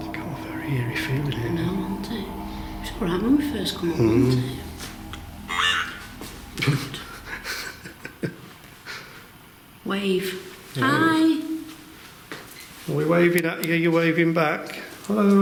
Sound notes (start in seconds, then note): 2.2 speaking quietly; 6.0 device speaking